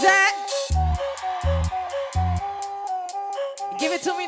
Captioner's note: audience cheering